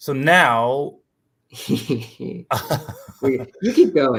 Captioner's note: laughter